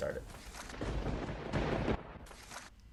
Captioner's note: lightening and thunder; paper ripping